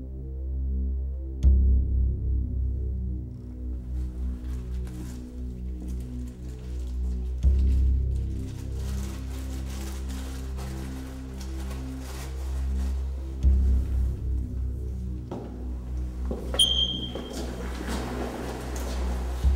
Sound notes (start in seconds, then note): 16.2 scrapping